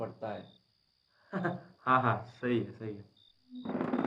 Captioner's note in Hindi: हँसते हुए